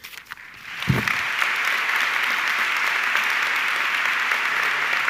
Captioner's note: audience clapping